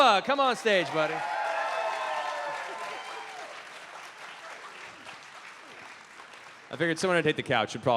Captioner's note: cheering